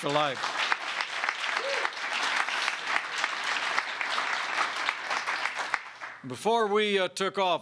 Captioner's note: applause